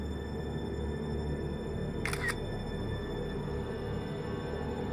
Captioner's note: picture snaps